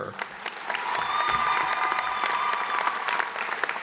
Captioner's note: applause